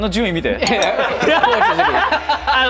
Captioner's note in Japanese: 笑い